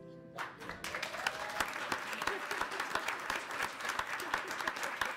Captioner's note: audience applauds